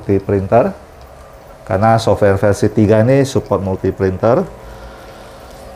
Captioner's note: printer machine noise